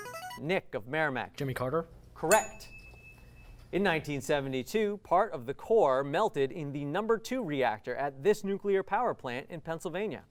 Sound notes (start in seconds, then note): 2.3 ding